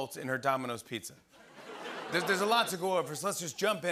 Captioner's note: laughter